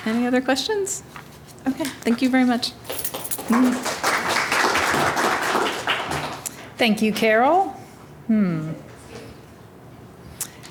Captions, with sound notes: Any other questions? Okay, thank you very much. (applause) - Thank you Carol.